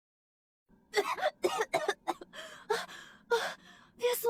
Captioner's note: cough cough